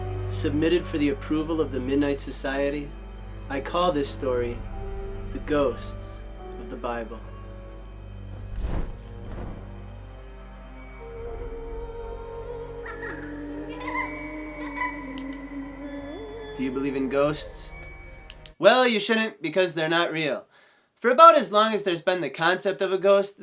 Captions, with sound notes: Submitted for the approval of the midnight society, I call this story ‘The Ghosts of the Bible.’ [Spooky night sounds] Do you believe in ghosts? Well you shouldn’t because they’re not real! For about as long as there’s been the concept of a ghost,